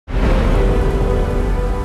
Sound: lightning cracks

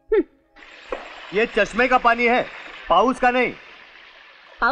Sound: rain

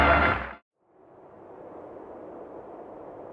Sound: wind howling

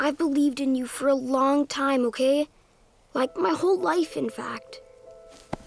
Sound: none

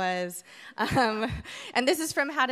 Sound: chuckles

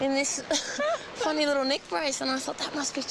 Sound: laughs

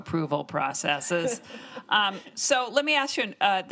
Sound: all laughing

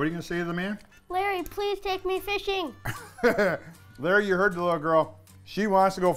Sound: laughing

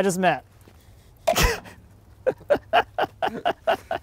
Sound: laughing

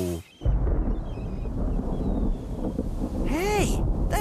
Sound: thunder Rumbles

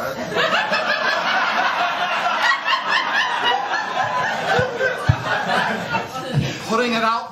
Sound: laughter

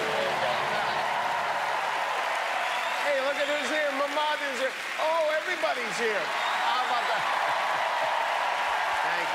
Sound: applause

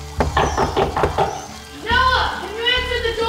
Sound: knocking

